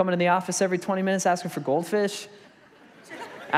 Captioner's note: congregation laughs